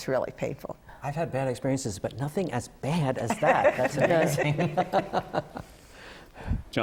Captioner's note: laughter